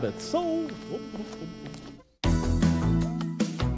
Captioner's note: laughs